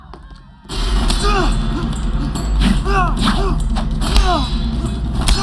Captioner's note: grunting, yelling